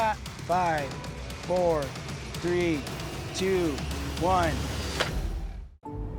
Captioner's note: thud